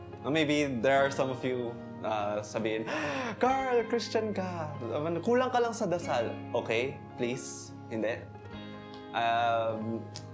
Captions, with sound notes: Ang maybe there are some of you who would say, "[gasp] Carl. You're a Christian. You just need to pray more." Okay, please. Stop. Uhmm...